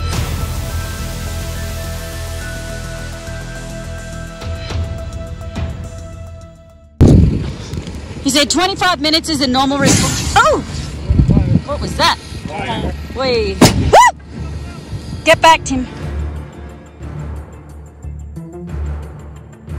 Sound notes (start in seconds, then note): 9.8 RV fire bursting; 15.3 dramatic music